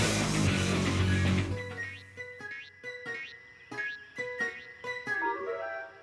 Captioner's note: boing! boing! boing! boing! boing!